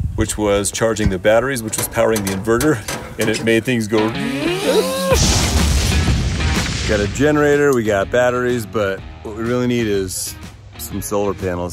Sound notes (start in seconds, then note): 4.4 whistling; 5.1 fireworks exploding